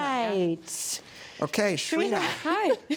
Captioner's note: laughs